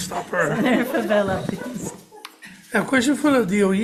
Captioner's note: everybody laughing